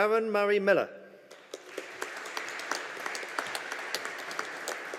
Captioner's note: audience applauding